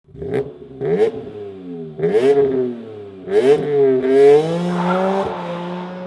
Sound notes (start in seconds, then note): 0.1 car engine revving